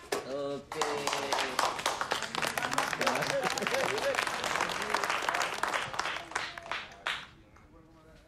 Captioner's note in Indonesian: Tepuk tangan